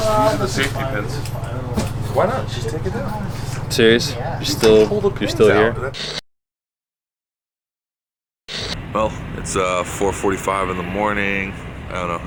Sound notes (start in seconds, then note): 5.8 television static